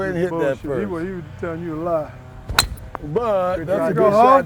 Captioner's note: sound of club hitting the ball